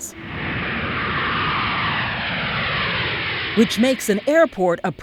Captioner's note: jet roaring